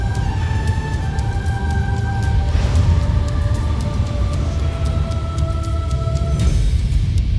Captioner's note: music swells; wind howling; rock music playing